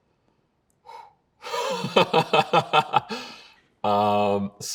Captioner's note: sighs, laughs